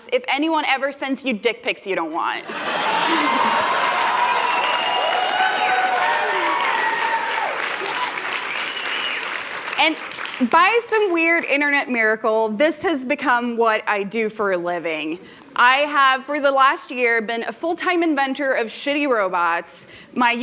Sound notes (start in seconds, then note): 2.6 applause; 5.7 cheers